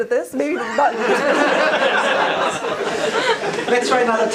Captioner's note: audience laughter